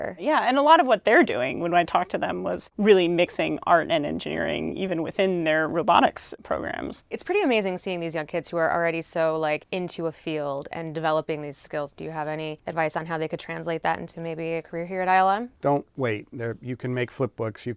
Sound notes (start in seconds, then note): none